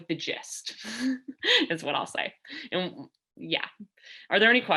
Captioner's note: laughter